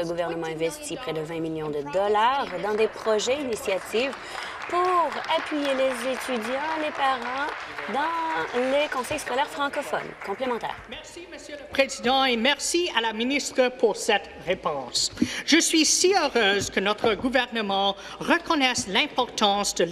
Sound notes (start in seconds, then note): 10.2 applause; 15.1 speaking in French